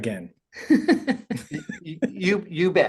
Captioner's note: laughing